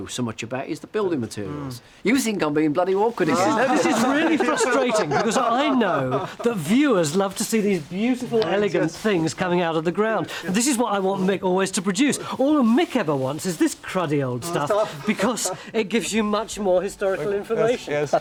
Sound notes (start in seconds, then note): 3.2 laugh